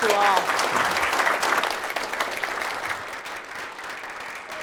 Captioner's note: applause